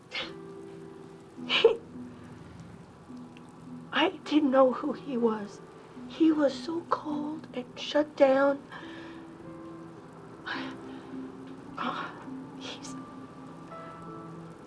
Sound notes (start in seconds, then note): 8.7 exhales; 11.2 voice cracking